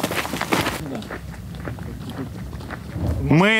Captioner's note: chatter